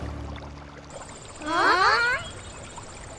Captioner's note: gasps